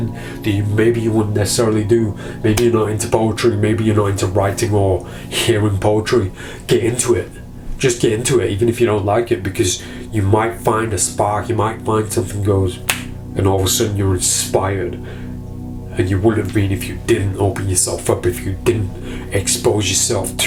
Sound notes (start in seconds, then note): 12.8 fingers snapping